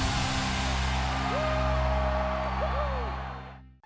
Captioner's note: crowd cheers